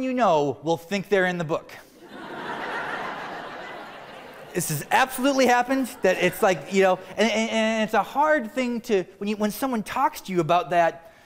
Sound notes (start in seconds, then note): 5.4 laughter